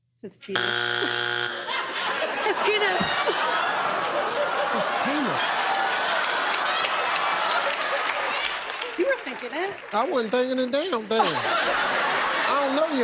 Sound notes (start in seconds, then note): 1.5 chuckles; 6.2 laughter